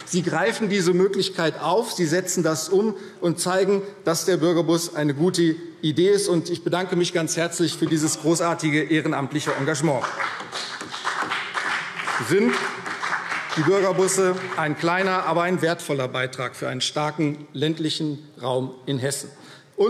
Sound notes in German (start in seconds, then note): 9.3 Beifall CDU und BÜNDNIS 90/DIE GRÜNEN